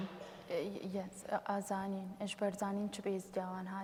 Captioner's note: speaking kurdish